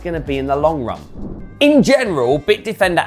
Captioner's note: transition whooshing